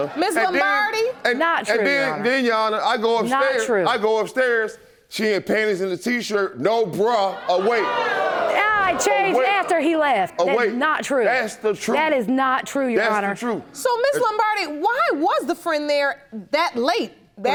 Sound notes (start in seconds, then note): 8.2 audience gasping